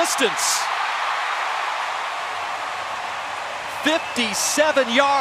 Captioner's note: cheering